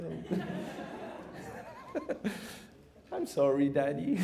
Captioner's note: laughter